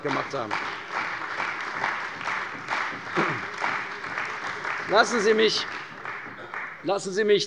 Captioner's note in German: Beifall bei der CDU und dem BÜNDNIS 90/DIE GRÜNEN